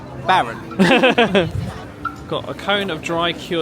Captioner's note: both laughing